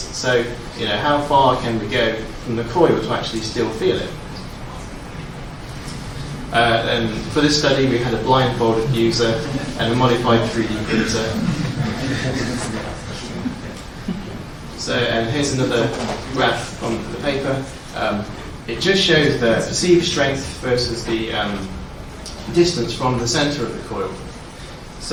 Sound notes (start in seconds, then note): 12.8 audience chuckles